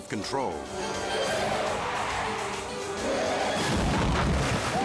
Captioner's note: car skidding; spectators yelling